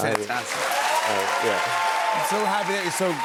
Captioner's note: cheers and applause